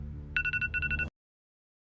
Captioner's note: alarm clock